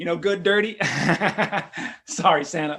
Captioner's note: laughs